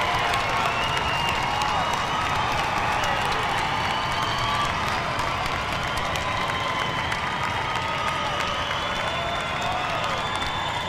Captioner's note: applause; cheers & applause